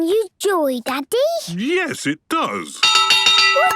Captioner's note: clanging